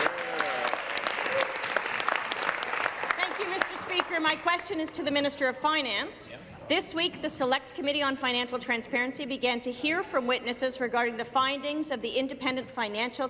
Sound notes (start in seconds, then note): 2.5 applause